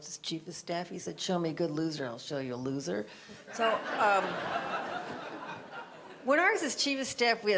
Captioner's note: audience laughter